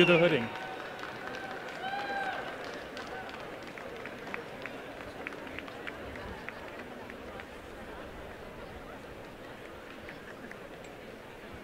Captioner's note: applause